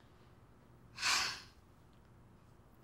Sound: sighing

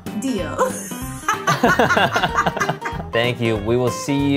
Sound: both laughing

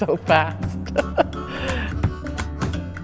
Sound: laughter

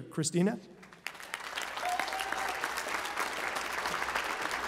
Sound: applause

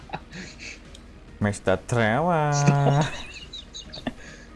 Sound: faux Indian accent; weak wheezing

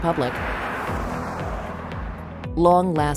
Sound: car passing

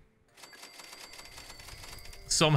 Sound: cash register dinging

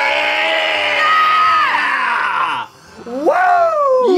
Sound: all screaming

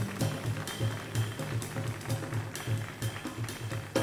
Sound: audience applauds

